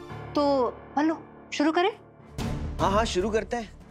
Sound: none

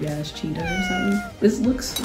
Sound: cat mewing

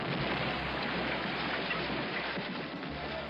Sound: explosion

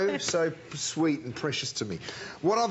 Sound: laughter

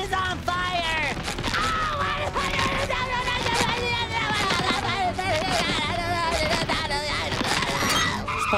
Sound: screaming, babbling

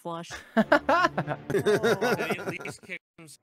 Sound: laughing

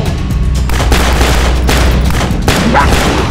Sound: guns fire; vampire growls

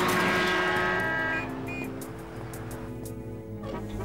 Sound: honking

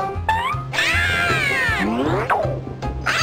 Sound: PIXEL and CHISEL scream; PIXEL and CHISEL scream

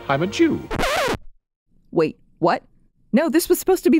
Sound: record scratch

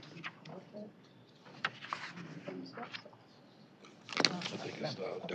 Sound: indistinct chatter

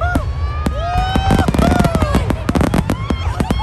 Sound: cheering

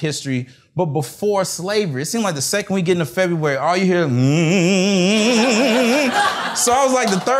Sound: hmmm

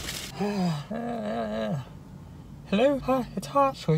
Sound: groaning

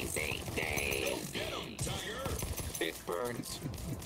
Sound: gun shooting

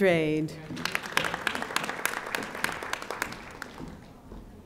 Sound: audience applauding

